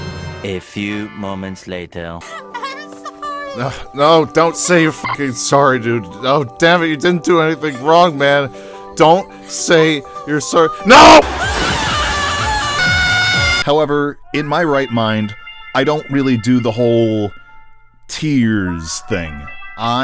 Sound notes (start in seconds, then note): 3.4 ugh